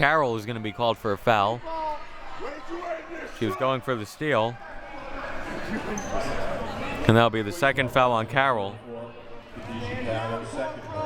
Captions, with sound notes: as Carroll is gonna be called for a foul. She was going for the steal. (audience chattering) And that'll be the second foul on Carroll.